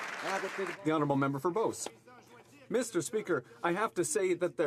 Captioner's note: some Applause